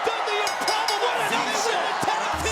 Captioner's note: bell rings